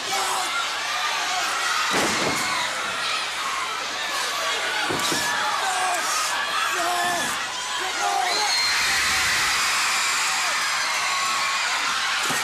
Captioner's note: crowd cheering